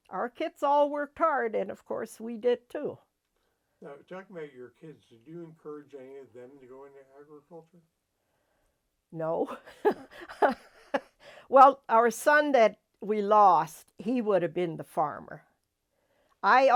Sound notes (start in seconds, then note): 9.5 laughs